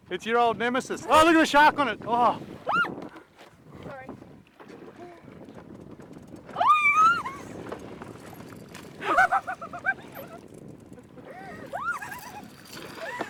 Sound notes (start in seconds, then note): 2.6 screams; 7.0 hysterical screams